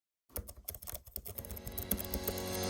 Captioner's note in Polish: stukanie klawiatury; rytmiczna muzyka